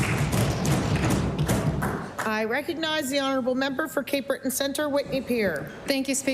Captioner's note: applause